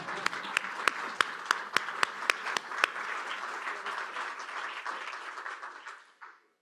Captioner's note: applause